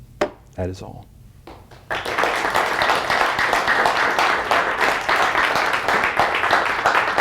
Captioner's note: applause